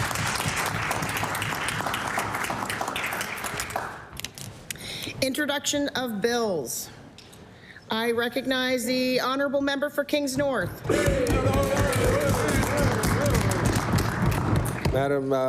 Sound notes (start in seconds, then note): 2.3 applause